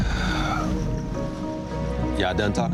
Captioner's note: Michael sighs